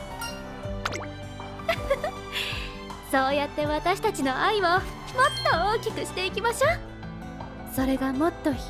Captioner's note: laughs